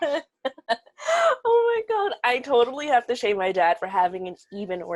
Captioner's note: laughs